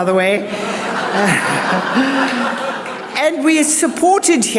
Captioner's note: audience laughs